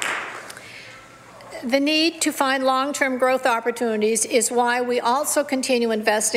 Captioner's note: some Applause